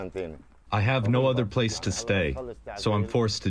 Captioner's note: through translator